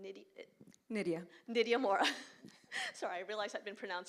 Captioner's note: chuckles